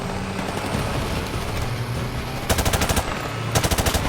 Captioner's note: engine rumbling; guns firing